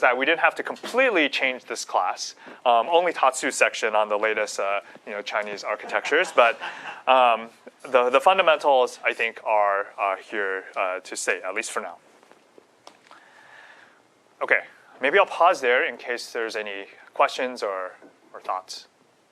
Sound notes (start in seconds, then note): 5.8 laughter